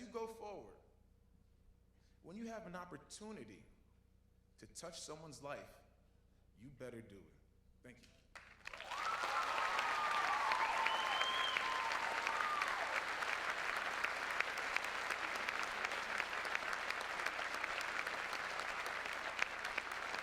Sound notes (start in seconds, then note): 10.8 applause